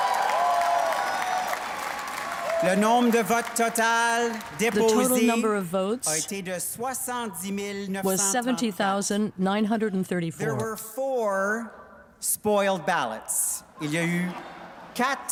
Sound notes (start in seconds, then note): 3.6 cheers and Applause; 7.4 speaking french